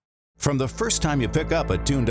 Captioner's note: voiceover